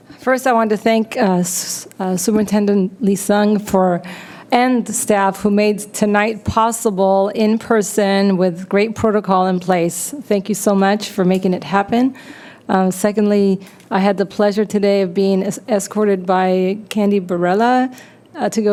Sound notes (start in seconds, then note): none